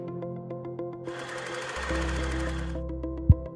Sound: calm music; projector whirring; microphone tapping

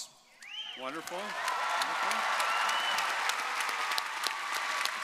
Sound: audience cheering

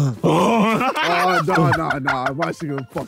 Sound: grunting; laughing

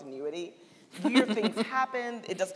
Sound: laughing

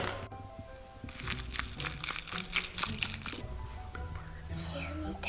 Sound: pouring

